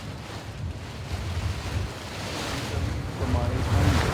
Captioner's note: wind rustling